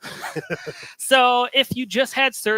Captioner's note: chuckles